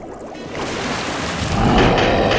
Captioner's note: monster roars